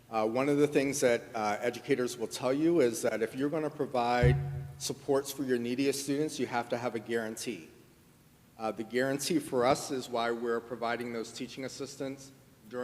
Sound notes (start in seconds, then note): none